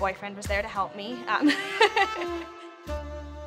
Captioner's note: laughs; romantic music